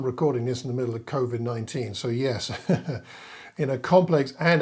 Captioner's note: chuckling